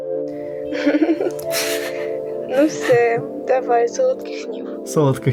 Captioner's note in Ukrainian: Дзвінок